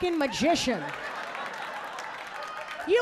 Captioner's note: audience laughing